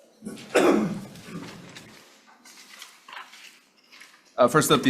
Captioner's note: member coughs